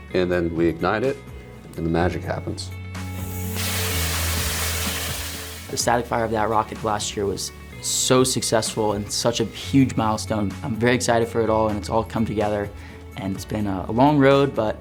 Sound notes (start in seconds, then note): 3.0 light music continues; 3.0 fuse sizzling